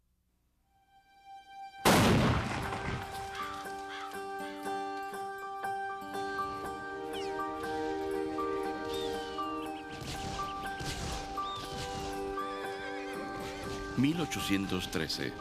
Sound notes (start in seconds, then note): 1.8 cannon fires; 3.1 crows cawing; 10.0 birds chirping, gunshots echoing, horses neighing